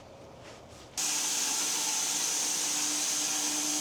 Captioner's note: saw buzzes